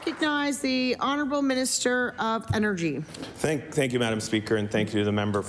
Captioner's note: applause